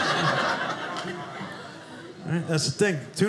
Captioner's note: audience laughing